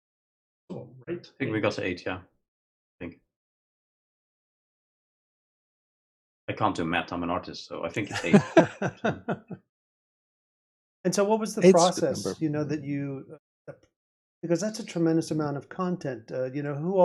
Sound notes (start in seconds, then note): 8.0 laughing